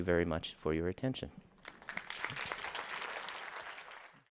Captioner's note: applause